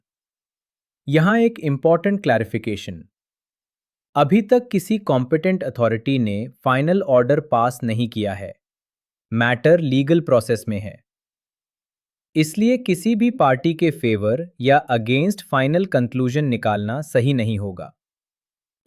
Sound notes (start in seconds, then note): 11.1 pause